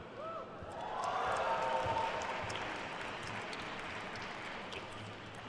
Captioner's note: attendees cheering and applauding